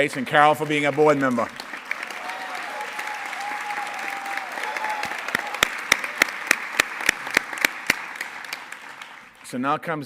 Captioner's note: applause